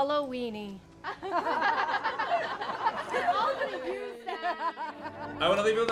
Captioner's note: crowd laughs